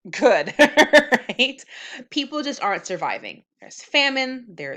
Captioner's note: chuckles